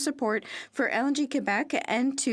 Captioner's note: speaking French